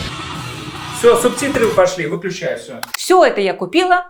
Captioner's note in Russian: закадровый голос